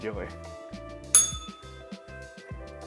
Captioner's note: bell rings